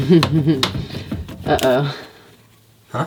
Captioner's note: laughing